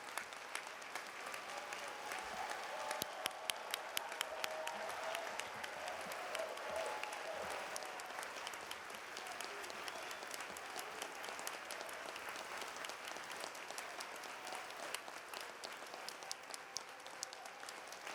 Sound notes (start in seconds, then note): 0.0 applause; 3.6 cheer and Applause